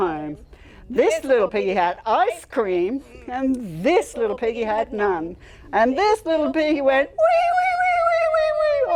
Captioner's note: cry